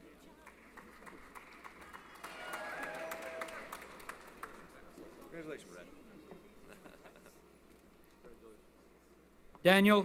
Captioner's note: applause